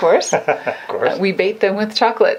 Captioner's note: laughs